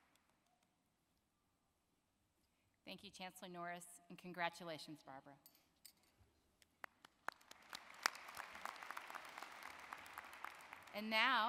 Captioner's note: applause